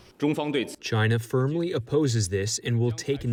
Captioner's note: through translator